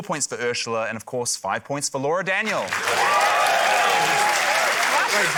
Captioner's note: cheering, applause